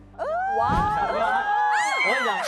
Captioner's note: non-stop screaming